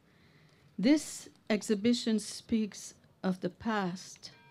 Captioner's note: background bells chiming